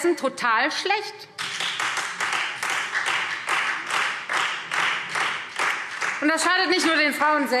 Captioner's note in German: Beifall Freie Demokraten